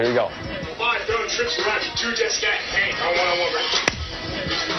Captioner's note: quarterback calls play